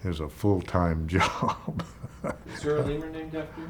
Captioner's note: laughs